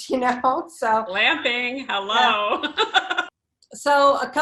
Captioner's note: laughs